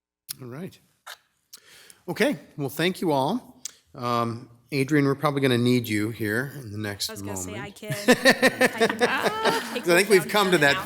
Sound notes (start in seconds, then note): 7.8 laughing